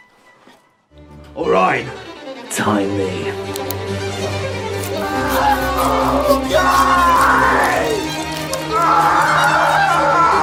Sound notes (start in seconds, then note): 3.5 click; 4.1 awful, Wet Sawing Noises; 8.8 patient Screaming